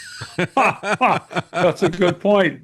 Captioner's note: laughs